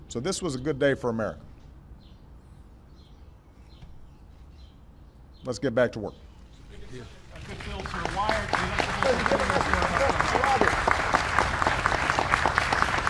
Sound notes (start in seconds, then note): 7.3 applause